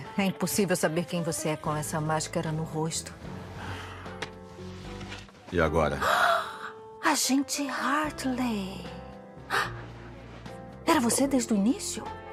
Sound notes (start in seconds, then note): 6.0 gasps theatrically